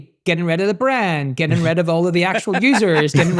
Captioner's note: laughing; chuckling